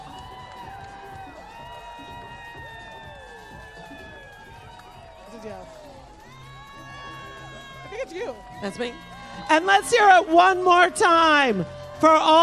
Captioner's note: cheers and applause